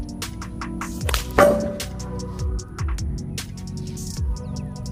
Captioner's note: loud clang